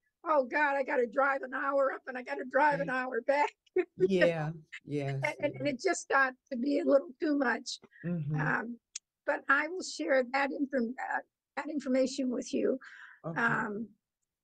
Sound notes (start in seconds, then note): 4.8 laughter